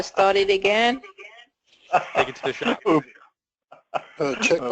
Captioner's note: laugh